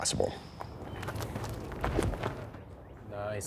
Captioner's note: gravel crunching